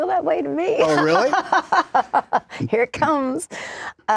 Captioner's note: laugher